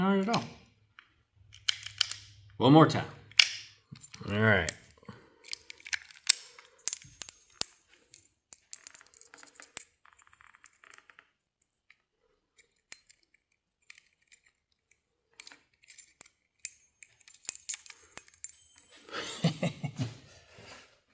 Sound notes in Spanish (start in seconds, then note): 0.0 Clicking; 8.4 Laughing